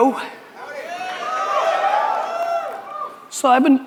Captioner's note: audience cheers